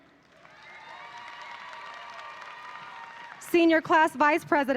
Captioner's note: audience applauding